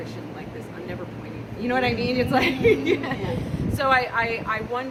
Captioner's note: murmurs of assent